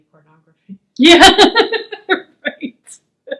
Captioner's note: laughs